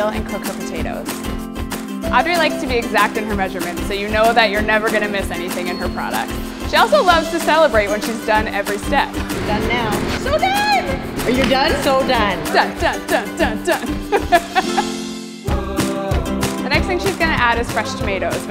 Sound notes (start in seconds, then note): 1.4 upbeat music; 13.8 laughing; 14.5 upbeat music